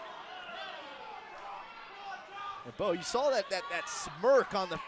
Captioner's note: crowd chatter